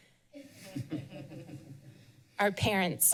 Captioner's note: laughs